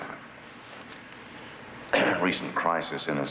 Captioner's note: clears throat